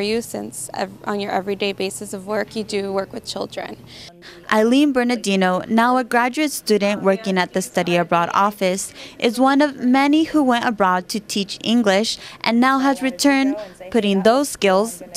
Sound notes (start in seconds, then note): 8.2 background conversation